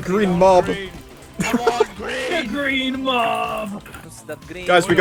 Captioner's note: giggle